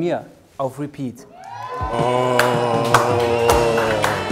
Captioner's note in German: Jubel